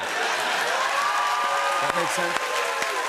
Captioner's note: laughter, cheers, applause